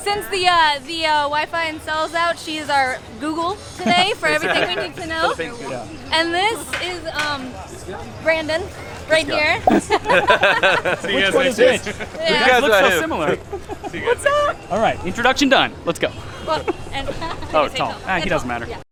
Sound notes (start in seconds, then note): 9.6 laughs